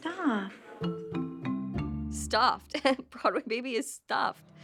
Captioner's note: giggles